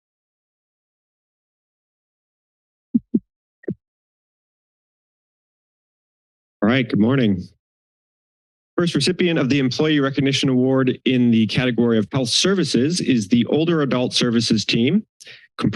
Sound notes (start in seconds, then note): 0.0 silence; 3.0 mic thump; 3.9 silence